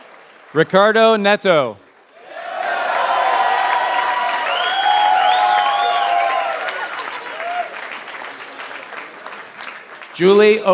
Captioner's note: applause